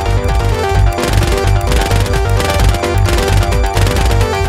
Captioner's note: gun shots; machine gun firing